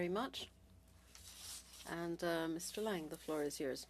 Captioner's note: speaking French